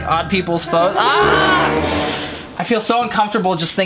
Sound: screams

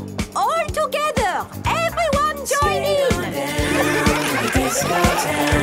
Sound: laughter

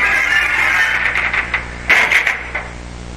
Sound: creaking

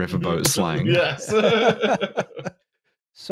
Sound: laughs

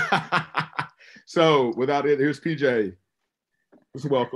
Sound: laughs

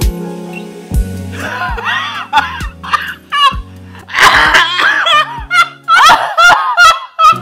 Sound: wheezing

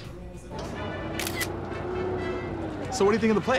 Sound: camera clicking

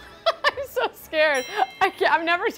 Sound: laughing

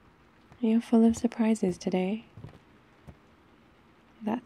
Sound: footsteps

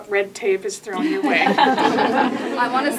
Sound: laughing

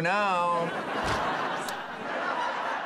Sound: audience laughing

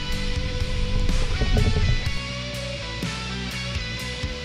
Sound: water bubbling

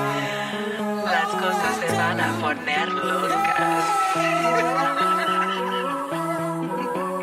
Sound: laughter

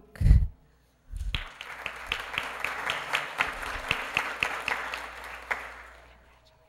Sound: applause

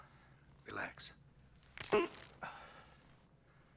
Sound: crack

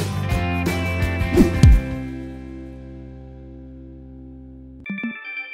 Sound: air whooshing; electronic beeping

